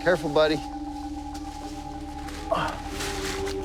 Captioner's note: grunts